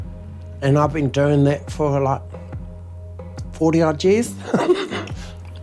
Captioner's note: laughs